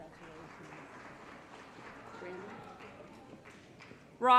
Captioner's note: applause